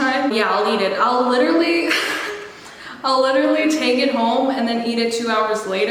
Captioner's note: laughs